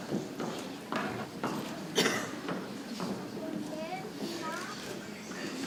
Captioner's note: people chattering softly